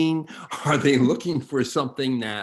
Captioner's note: chuckles